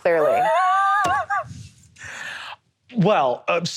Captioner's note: laughing